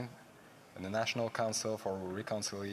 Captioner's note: speaking French